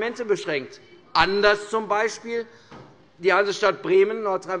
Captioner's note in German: none